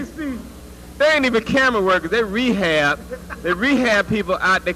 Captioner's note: laugh